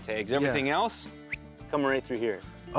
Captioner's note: whistles